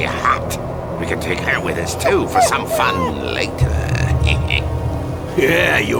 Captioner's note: creepy laugh